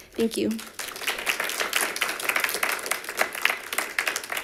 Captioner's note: members clapping